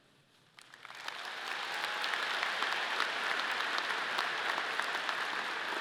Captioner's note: audience applauding